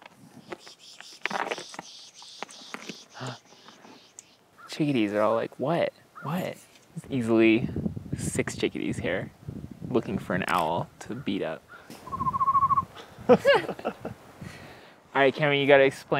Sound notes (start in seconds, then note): 0.1 more swooshing; 12.0 trilling whistle; 13.0 laughing